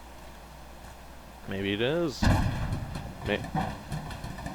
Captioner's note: trash cans bang, bowels void